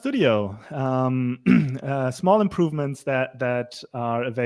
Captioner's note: clears throat